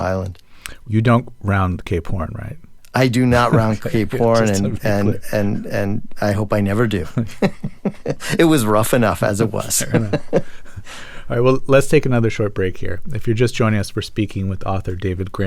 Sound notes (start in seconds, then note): 7.0 laughter; 9.6 laughter